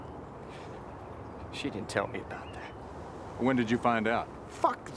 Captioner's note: breathes shakily